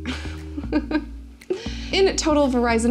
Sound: laughs

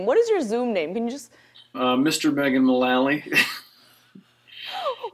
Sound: laughs

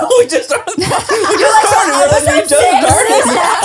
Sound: everyone laughs

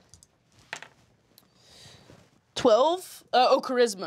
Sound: die clatters

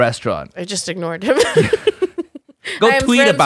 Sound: both Laugh

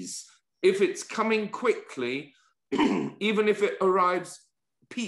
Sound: cough

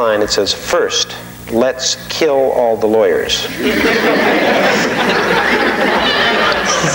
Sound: audience laughing

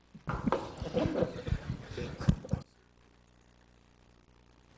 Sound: people chuckling

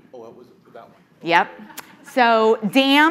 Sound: audience chuckling

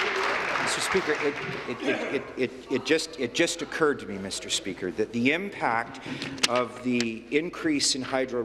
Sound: applause

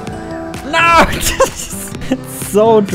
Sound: giggles

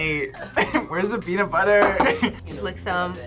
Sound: laughs

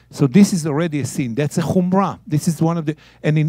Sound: speaking in Hebrew

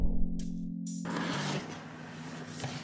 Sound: relaxing background music; box opening sounds; sluuuuup

